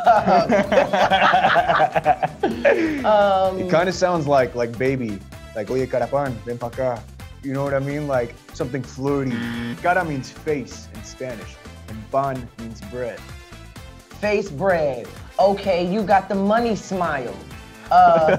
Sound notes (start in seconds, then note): 0.0 both laugh; 6.2 speaks Spanish; 9.3 buzzer